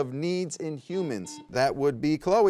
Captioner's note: buzzer beeps